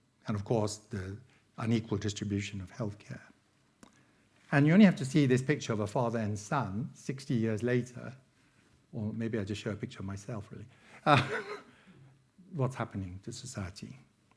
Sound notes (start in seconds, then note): 11.0 laughing